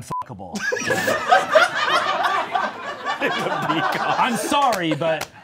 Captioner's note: all laughing